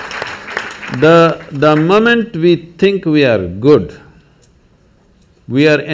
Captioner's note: applause